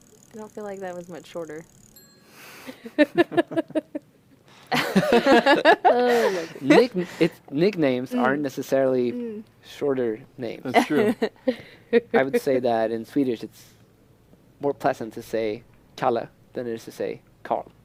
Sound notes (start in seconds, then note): 2.7 laughter